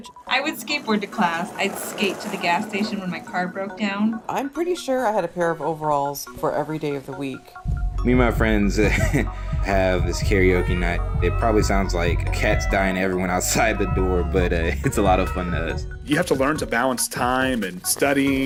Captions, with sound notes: I would skateboard to class. I'd skate to the gas station when my car broke down. I'm pretty sure I had a pair of overalls for every day of the week. Me and my friends [chuckles] have this karaoke night. It probably sounds like cats dying to everyone outside the door. But it's a lot of fun to us. You have to learn to balance time and study.